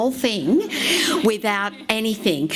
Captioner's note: laughs